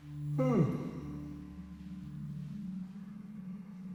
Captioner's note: Danny yawns